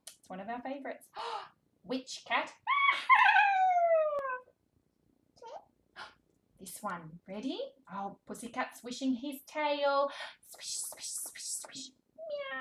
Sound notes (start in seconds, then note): 2.8 laughs; 5.4 babbling; 12.2 meowing